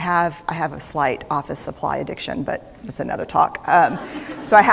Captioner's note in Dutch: Gelach